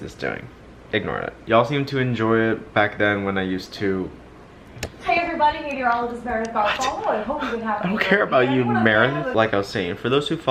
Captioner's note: tv turns on in the background